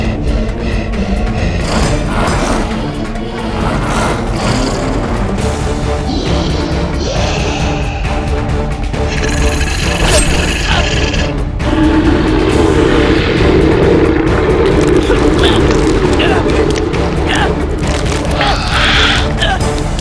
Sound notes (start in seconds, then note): 9.1 grunting; 13.8 groaning; 14.1 squishing